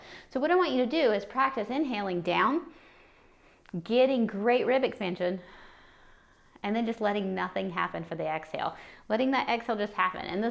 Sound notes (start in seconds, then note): 2.7 inhaing; 5.4 exhaling